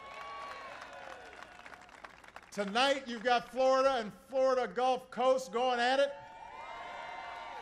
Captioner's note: applause; applause